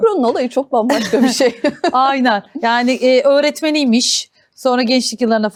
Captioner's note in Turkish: kahkaha